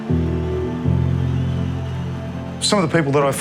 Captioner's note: crowd cheering faintly in the background